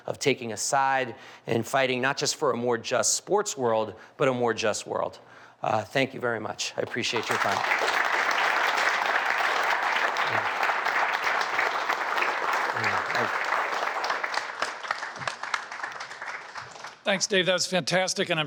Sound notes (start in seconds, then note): 7.9 audience clapping